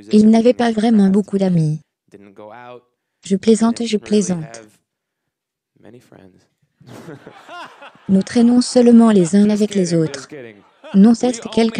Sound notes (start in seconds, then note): 6.8 laughter